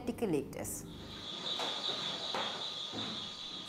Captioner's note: hiss